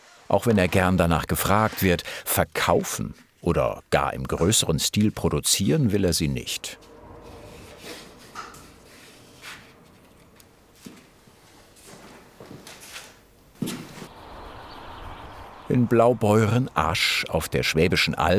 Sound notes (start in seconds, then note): 12.3 soft rattling; 13.6 chirping birds